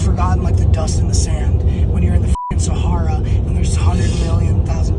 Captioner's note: beeps